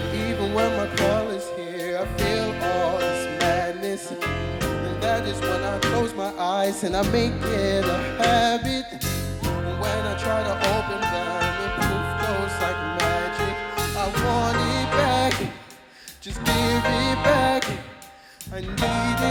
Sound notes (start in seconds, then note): 10.6 poof